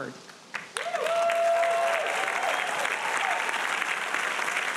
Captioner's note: audience applauding